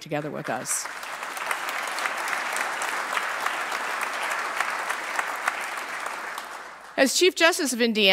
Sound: applause

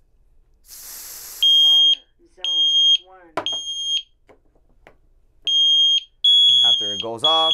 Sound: alarm beeps

